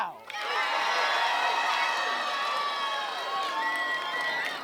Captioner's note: cheering